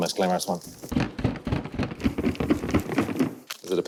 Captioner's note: hollow rattling